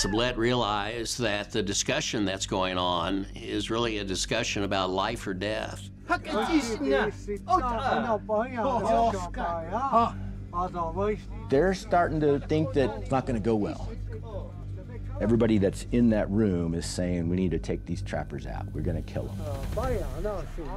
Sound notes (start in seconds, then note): 8.3 speaking shoshone